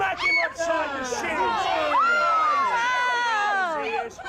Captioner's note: crowd yelling